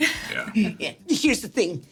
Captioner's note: Sarah laughs